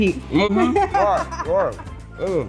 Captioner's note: laughing